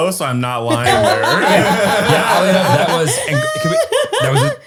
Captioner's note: all laugh